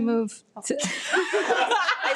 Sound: members laugh

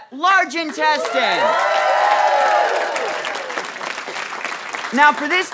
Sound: audience cheering

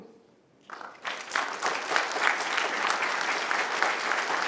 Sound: applause

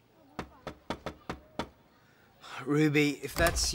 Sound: knocking

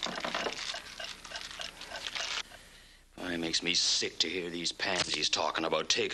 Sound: clock ticking

